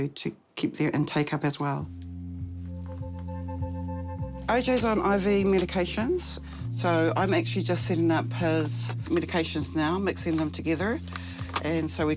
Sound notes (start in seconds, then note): none